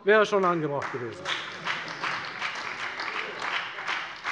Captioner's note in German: Beifall bei der FDP und der SPD